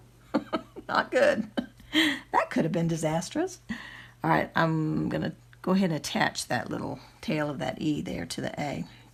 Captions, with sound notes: (giggles) not good! That could have been disastrous! (laughs) all right, I'm gonna go ahead and attach that little tail of that e there to the a